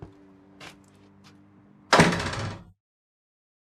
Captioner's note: footsteps; door bangs shut